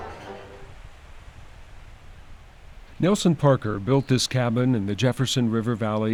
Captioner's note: nature sounds